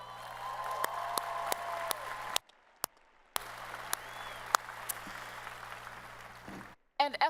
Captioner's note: applause